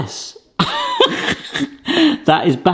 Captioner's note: laughing